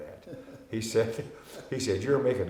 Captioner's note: laughing